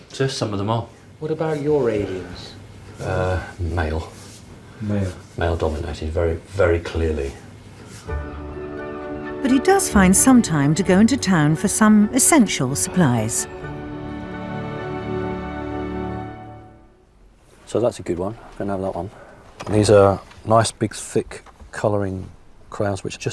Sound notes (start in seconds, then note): 1.9 voiceover; 5.0 voiceover; 9.5 voiceover